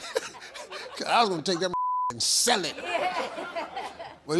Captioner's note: laughs; beep; audience laughs